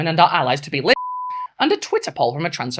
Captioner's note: beep